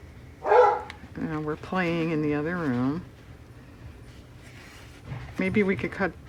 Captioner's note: dog barks